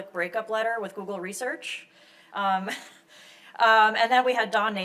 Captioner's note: chuckles